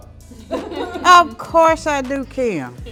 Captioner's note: laughter